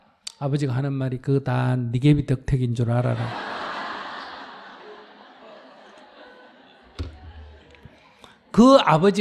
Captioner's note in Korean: 청중 웃음